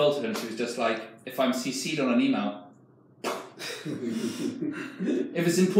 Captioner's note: puffs